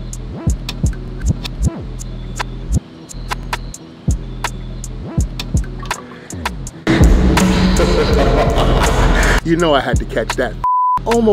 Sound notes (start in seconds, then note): 7.5 manic laughter